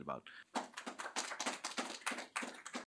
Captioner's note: applause